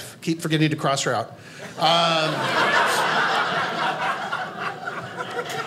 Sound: audience laughing

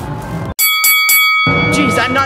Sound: bell ringing

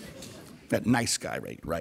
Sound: audience laughter

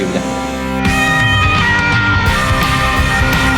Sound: siren sound is coming from the ambulance

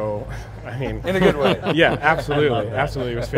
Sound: laughing

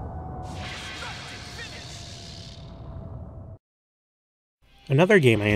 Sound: energy Droning; energy Droning

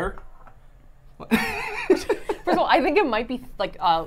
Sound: laughs

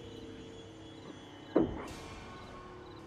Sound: thump

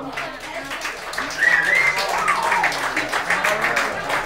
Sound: clapping

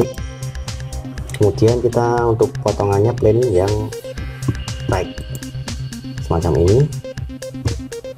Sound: click

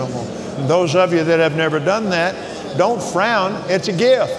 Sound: speaking in tongues

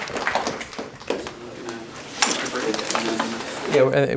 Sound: indistinct conversation

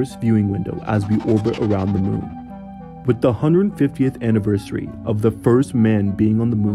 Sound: rocket noise; space warp noise

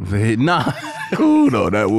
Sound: laughs

